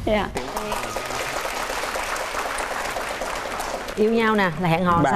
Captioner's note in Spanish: aplauso